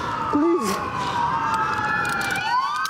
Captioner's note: sirenens wailing